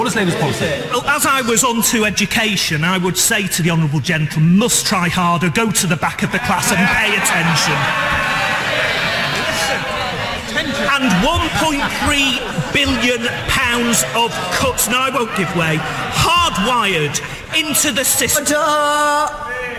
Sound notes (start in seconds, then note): 7.9 cheering and laughs